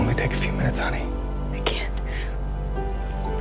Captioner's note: voiceover